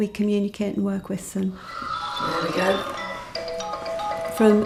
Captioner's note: alarm sounds